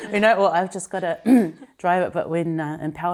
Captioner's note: laughs; clears throat